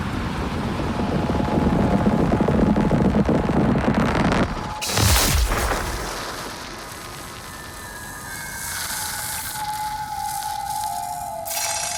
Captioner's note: wind blowing